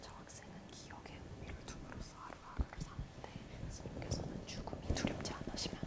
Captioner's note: interpreter whispering Korean